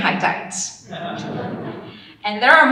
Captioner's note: audience laughing